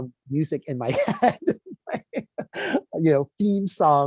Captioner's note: laughs